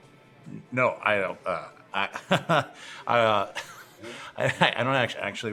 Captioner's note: nervous chuckles